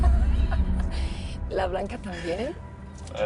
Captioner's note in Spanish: Risas